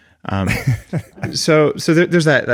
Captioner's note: laughs